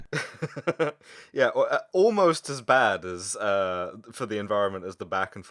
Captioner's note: laughter